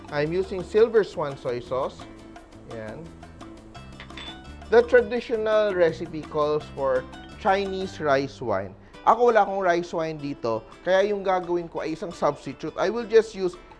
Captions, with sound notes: I'm using Silver Swan soy sauce. There. [Clang] The traditional recipe calls for -- Chinese rice wine. Me, I don't have rice wine here. So, what I'm using -- is a substitute. I will just use --